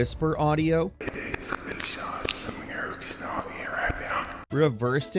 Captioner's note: unsettling whispering